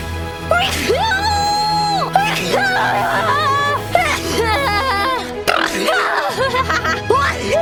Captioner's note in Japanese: くしゃみ